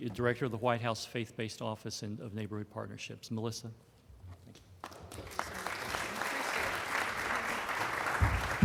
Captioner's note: applause